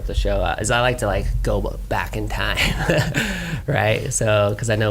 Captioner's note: laughs